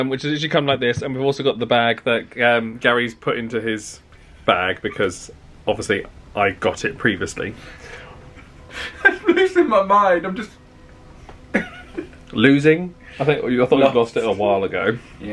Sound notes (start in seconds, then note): 11.5 chuckles